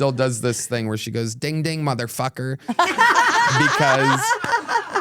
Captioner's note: laugh